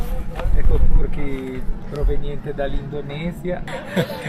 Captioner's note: speaking Italian